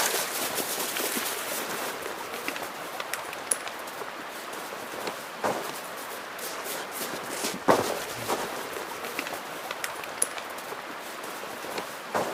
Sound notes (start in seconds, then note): 0.1 snow crunching; 5.7 banging